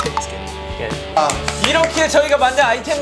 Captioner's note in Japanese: パチパチパチ